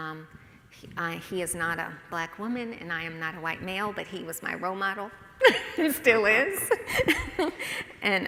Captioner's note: laughs